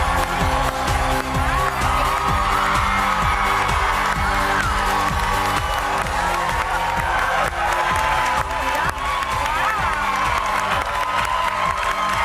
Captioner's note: cheers and applause